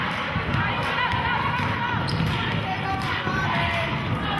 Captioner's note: cheering